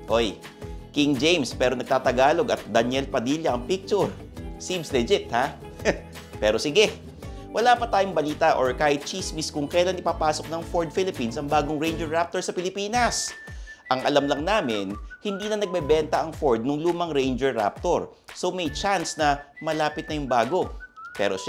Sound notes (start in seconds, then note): 5.6 scoffs